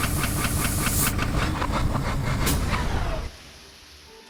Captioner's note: steam hisses; machine stops